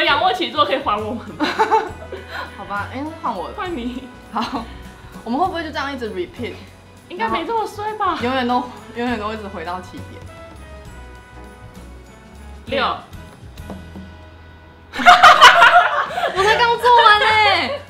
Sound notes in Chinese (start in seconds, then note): 15.0 爆笑again